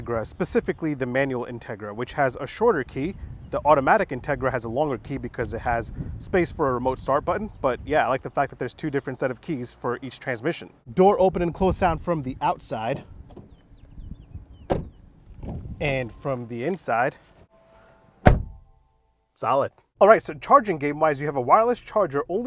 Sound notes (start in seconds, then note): 14.6 car door slams; 18.2 car door slams